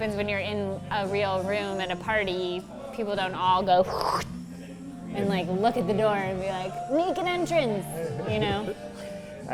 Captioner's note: none